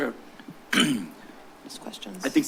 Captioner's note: clears throat